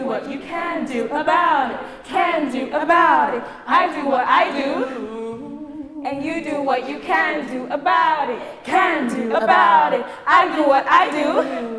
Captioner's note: music stops but chanting continues